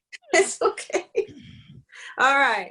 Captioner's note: laughs